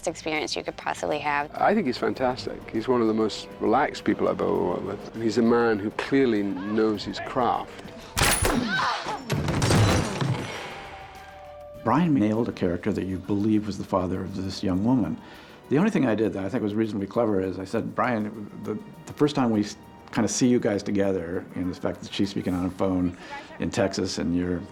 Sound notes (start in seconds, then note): 8.3 shrieks